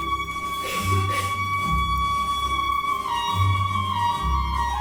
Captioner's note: group grunting